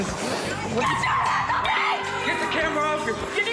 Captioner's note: screaming